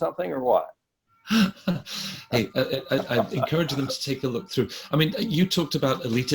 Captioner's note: laughs